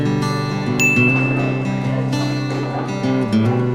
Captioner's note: ding